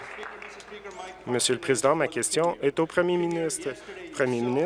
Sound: applause

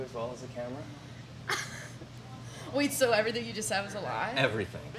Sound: laughs

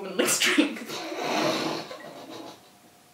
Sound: both laugh

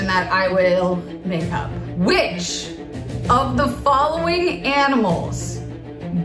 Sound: none

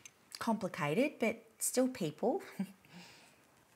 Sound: chuckles

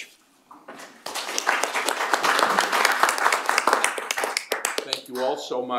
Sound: applause

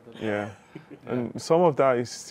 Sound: chuckles

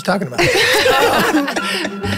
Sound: all laughing; lighthearted music

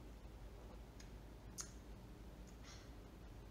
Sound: smacks lips

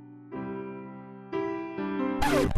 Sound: piano music; record scratching

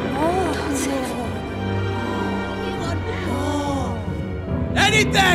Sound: demon speaks in foreign language; ghostly whispering

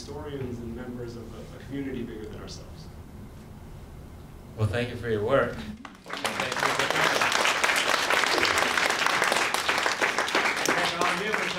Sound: applause

